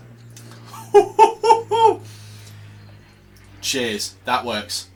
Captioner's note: chuckling